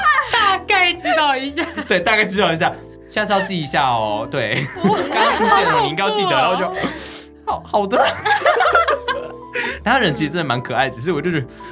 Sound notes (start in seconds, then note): 6.8 take a big breath